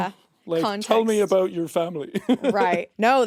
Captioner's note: chuckles